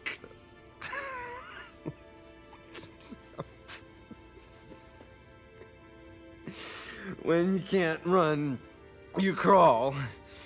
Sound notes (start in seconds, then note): 0.7 coughs and tries to laugh